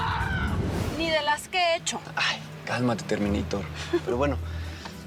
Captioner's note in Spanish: gritos